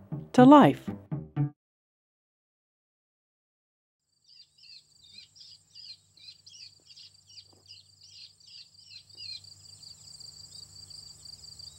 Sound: birds Chirping

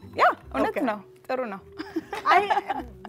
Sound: speaking Amharic

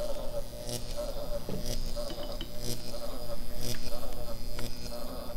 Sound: electricity continues zapping

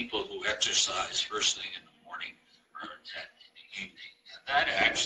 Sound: murmurs

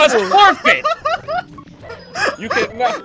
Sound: laughter

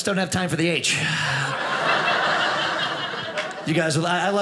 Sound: audience laughing

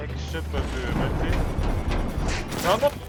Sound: booom booom boooom!!!

